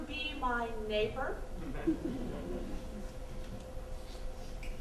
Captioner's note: audience chuckles